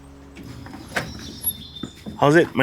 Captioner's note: door clicks